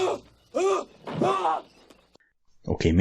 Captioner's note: Wailing in Belgian